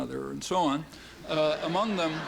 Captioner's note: laughter